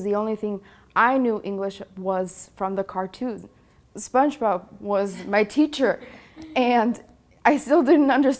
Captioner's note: laughs